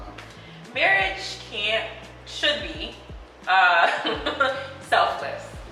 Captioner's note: chuckles